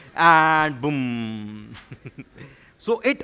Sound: laughs

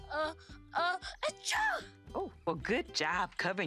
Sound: sneezes

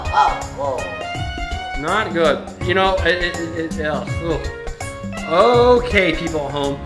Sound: makes disgusted noise

